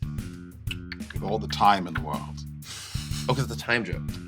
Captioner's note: clicks tongue; laughs